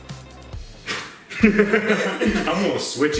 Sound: blows

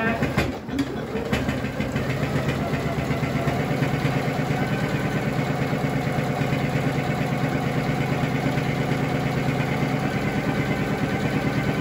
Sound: sewing machine noises

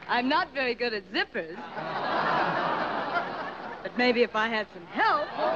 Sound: laughter

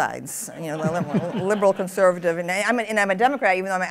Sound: laughter

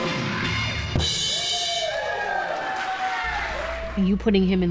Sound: applause

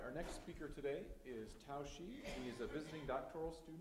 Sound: audience coughs

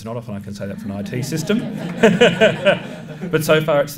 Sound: laughter

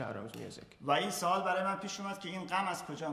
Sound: speaking in farsi

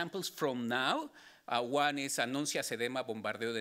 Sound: speaking Spanish

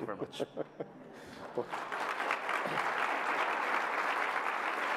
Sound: laughter; applause

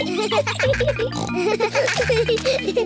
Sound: giggling; peppa snorts

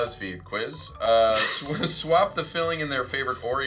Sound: Charlize laughs

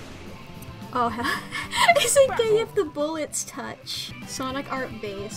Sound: through laughter

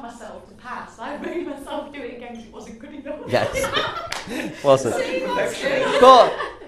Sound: laughter

